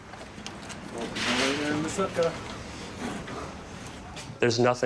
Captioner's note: speaking in foreign language